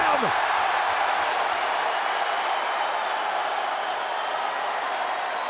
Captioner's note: audience applauds and cheers